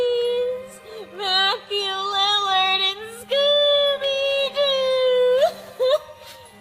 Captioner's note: sobs